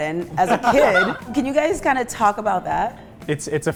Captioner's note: everyone laughing